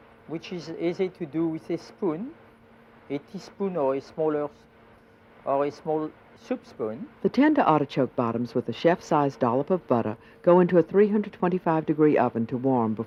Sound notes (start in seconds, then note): 7.3 voiceover